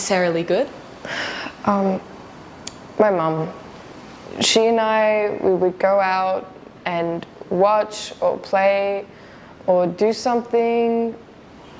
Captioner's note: sigh